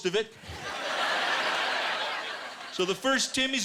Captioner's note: laughter